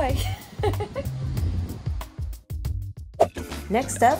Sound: laughs

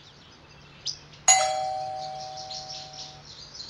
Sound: doorbell

